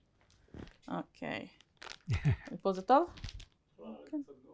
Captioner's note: hebrew